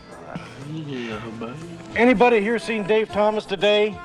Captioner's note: Ernie mumbles